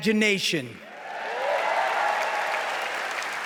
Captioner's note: cheering, applause